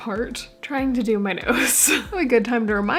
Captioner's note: laughing